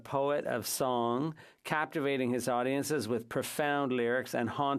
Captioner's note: speaking French